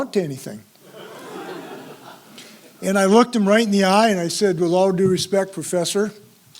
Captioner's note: laugh